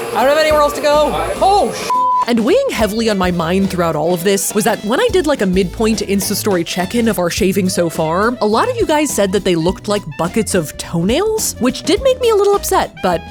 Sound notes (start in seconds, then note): 0.1 beeping